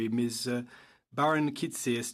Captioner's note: speaking in French